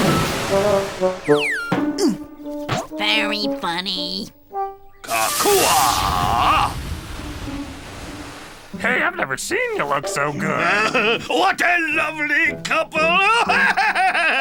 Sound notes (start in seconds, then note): 5.2 chanting; 13.0 laughing